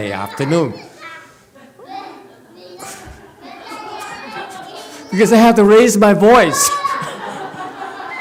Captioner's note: laughs, audience laughs